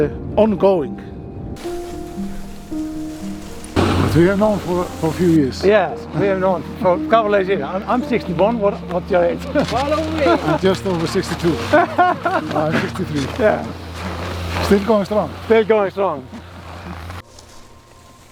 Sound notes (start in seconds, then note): 9.5 laughs